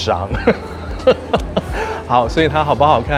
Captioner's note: laughs